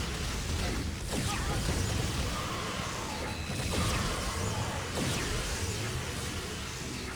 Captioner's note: laser blasts